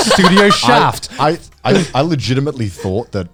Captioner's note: laughs